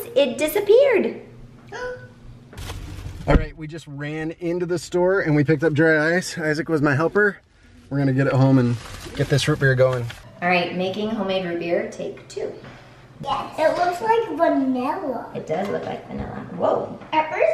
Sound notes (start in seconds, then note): 1.7 child gasps